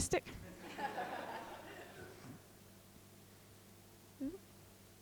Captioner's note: group laughing